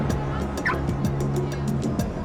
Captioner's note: car alarm chirping